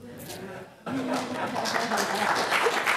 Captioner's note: applause